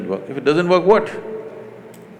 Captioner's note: laughs